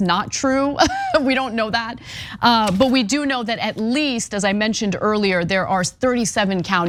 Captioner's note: laugh